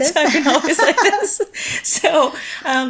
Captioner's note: chuckles